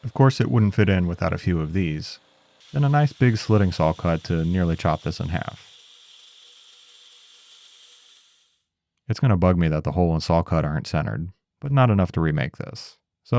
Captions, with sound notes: Of course, it wouldn't fit in without a few of these. And a nice big slitting saw cut to nearly chop this in half. (saw whirring) It's gonna bug me that the hole and saw cut aren't centered, but not enough to remake this.